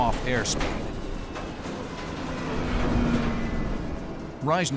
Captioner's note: rattling